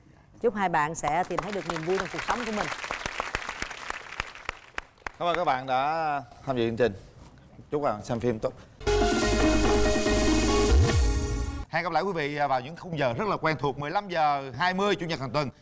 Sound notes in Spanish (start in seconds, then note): 3.1 aplausos